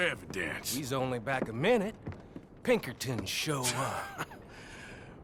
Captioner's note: Arthur laughs